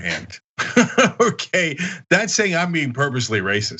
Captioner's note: laugh